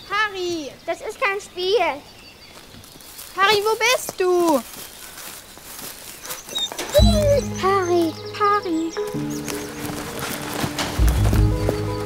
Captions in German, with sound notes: Pari! - Das ist kein Spiel. Pari, wo bist du? (Winseln) Pari. - Pari. (Unheilvolle Musik)